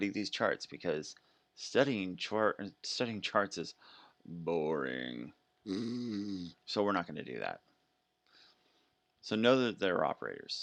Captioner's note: snoring sound